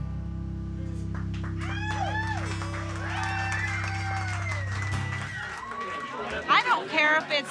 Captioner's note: applause and cheering